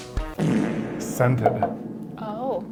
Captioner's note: loud fart